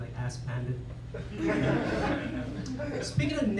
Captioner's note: laughter